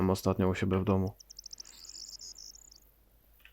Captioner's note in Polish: śpiew ptaków